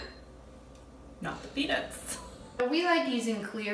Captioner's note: laughs